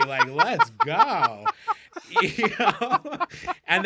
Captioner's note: laughing